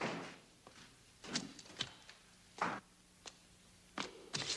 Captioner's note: footsteps thudding